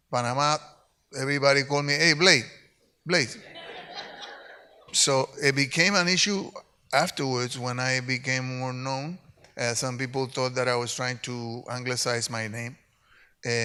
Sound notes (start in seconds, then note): 3.4 audience laughs